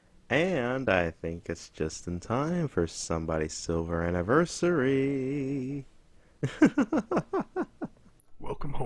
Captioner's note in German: Gelächter